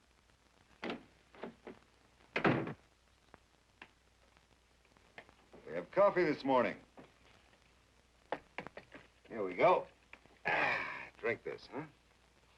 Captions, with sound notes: (door thuds) - We have coffee this morning. Here we go. Ah, drink this, huh?